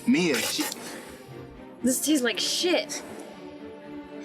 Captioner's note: Mia spits